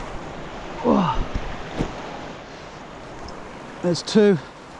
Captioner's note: grunting